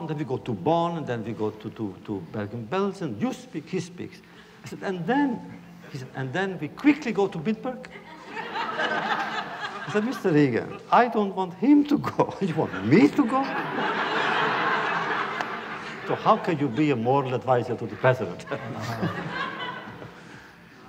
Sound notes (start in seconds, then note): 7.8 laughter; 12.5 laughter